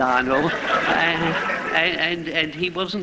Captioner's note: laughter